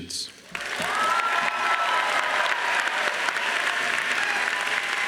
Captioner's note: crowd cheering and applauding